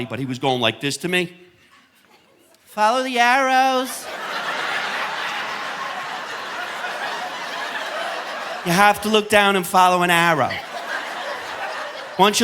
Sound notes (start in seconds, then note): 3.7 audience laughing